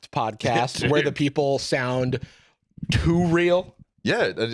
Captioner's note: laughs